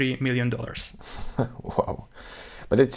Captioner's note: chuckles